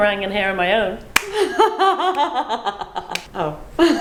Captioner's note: both laugh